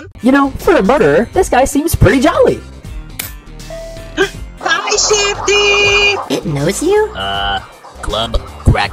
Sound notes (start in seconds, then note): 4.1 gasp